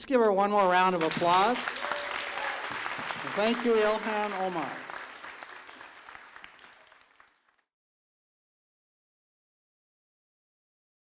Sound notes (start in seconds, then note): 0.5 applause; 3.6 emcee speaking